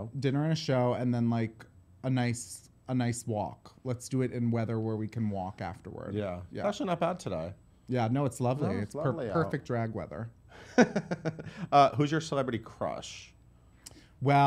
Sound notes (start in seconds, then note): 10.6 laughter